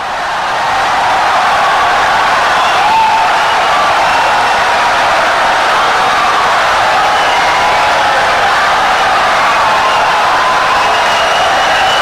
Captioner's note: wild applause and cheering for 17 seconds